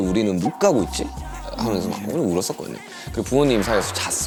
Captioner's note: sobbed resenting the circumstances